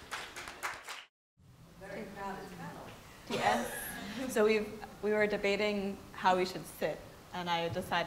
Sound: applause

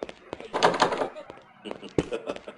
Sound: laughter

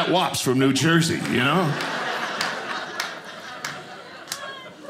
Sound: audience laughing

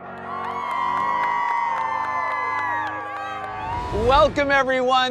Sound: inspiring music; crowd cheering

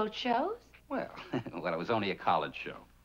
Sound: laughs

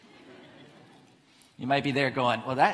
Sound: audience laughs

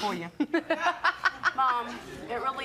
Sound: laughing

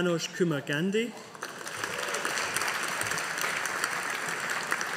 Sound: audience applauding

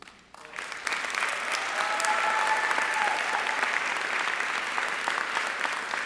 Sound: audience applauding and cheering

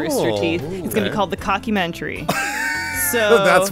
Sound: wheeze laughs

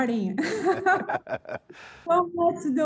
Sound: laughing

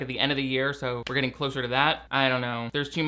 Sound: claps hands once

